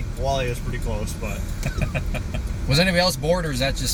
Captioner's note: laughter